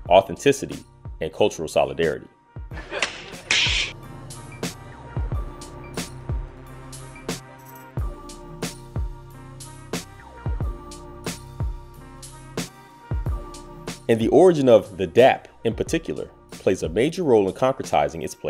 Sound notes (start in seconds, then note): 2.8 clap; 3.0 snap; 4.1 instrumental hip-hop music